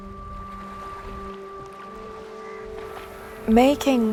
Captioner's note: waves splashing